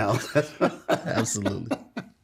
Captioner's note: laugh